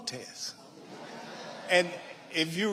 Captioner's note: audience laughing